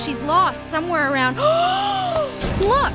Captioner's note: gasp